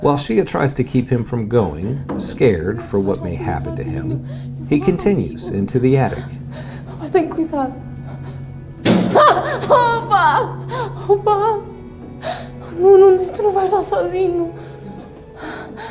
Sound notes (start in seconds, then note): 7.4 speaking in foreign language; 9.4 thudding